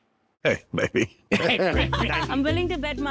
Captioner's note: laughing